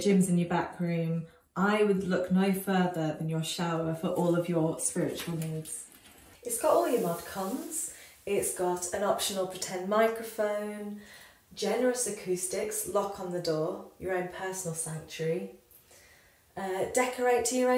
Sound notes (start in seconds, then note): none